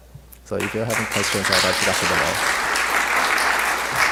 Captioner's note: applause